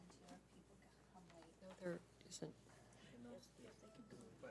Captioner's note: people murmuring